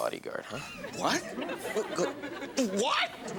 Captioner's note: speaks gibberish